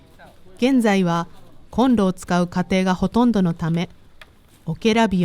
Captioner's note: fire